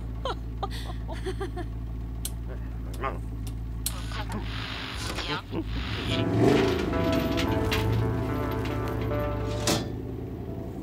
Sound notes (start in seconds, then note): 3.8 french radio plays; 5.6 weird music